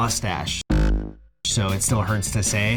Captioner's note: bonk